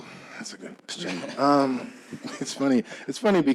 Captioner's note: chuckling